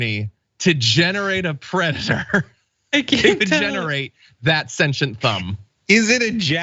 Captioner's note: laugh